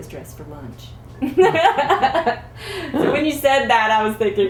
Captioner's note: laughter